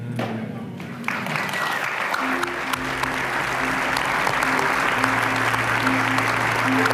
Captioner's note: applause